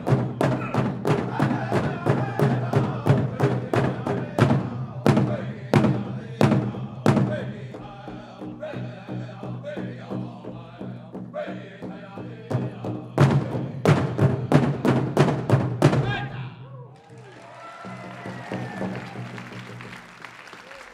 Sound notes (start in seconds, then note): 7.9 drum beating gently; 11.8 drum beating intensely; 16.2 lead singer chants shout; 17.0 audience applauding